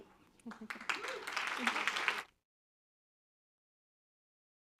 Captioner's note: applause